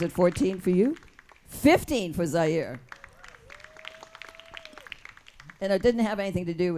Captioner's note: audience claps and cheers